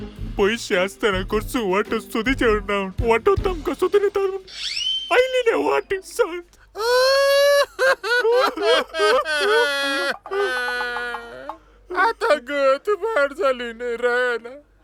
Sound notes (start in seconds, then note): 6.7 crying